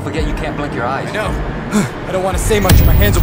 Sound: sighs

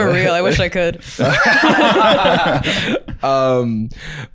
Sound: laughing

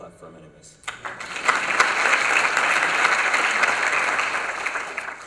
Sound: applause

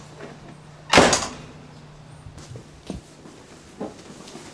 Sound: door slams

